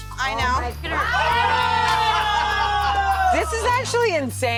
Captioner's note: crowd screams